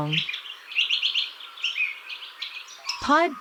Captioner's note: birds chirping